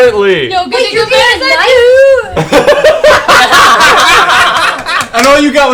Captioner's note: all laugh